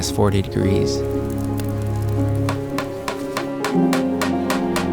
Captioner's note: fire crackling; hammering